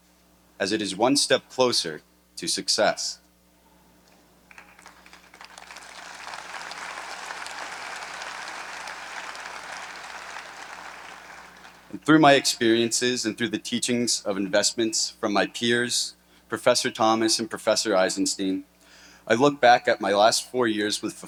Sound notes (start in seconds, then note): 4.5 audience applauding